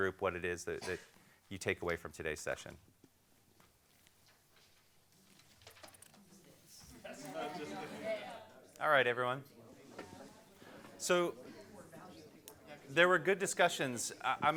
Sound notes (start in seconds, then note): 7.4 crowd chatters